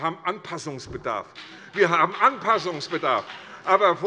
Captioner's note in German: Beifall bei der FDP